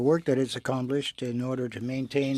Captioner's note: speaking in french